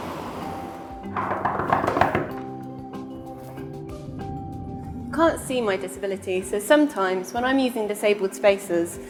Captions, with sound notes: [KNOCKING ON DOOR] You can't see my disability so sometimes, when I'm using disabled spaces